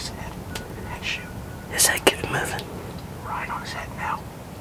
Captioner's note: whispering